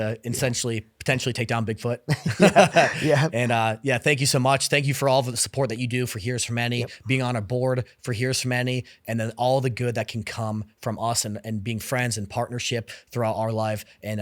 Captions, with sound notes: potentially take down Bigfoot. (Laughs) Yeah, thank you so much. Thank you for all the support that you do for Heroes for Many, being on our board for Heroes for Many and then all the good that can come from us and being friends and partnership throughout our life and